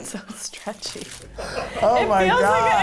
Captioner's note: laughing